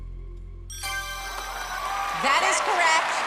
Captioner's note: ding